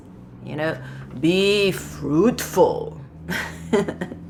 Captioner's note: chuckles; laughs